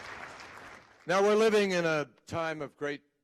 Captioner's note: applause